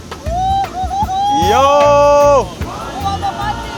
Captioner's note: kid shouting